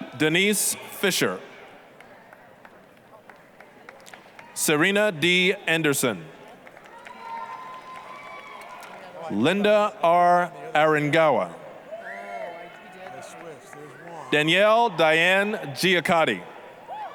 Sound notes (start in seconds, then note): 1.9 applause; 6.6 applause, cheering; 11.9 applause, cheering